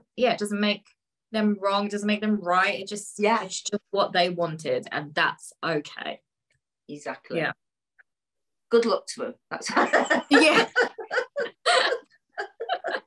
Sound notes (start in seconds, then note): 9.8 laughs